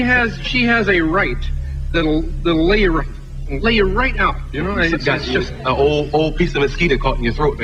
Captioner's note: trips over words